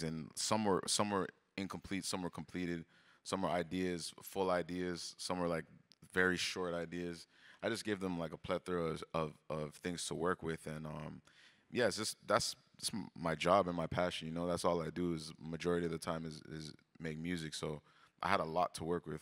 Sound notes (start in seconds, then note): none